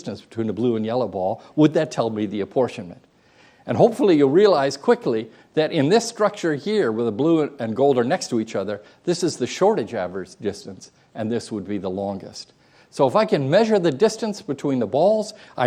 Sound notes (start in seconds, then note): none